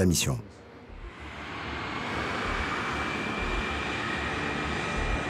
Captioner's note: airplane engines sound